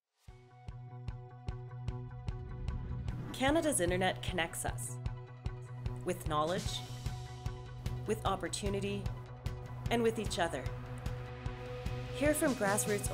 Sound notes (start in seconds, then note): 3.4 voiceover